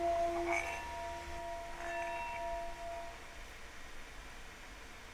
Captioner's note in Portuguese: vibração de sino